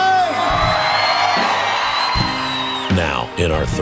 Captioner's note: people chearing loudly